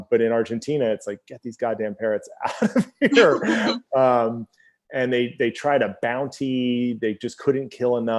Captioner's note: both laugh